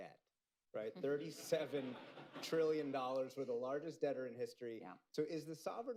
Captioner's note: laughter